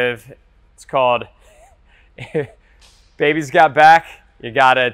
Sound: laughing

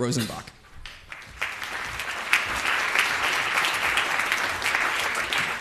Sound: audience applauds

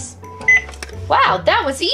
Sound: beep

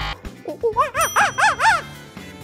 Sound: monkey sounds

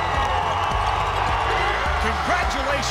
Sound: cheering

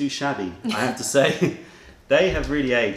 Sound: laughter

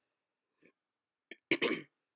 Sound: ahem

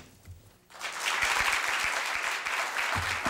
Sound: applause

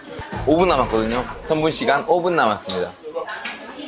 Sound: imitating internet cafe announcement voice

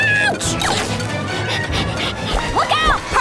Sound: panting

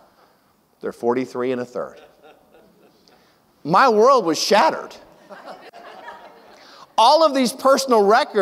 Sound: audience laughs

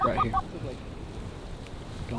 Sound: calling geese

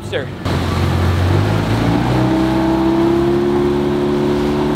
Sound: engine roaring

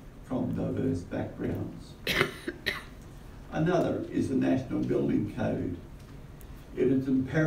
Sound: cough

